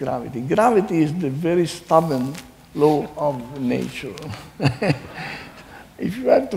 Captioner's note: laughs